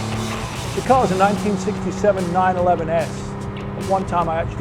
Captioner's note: voiceover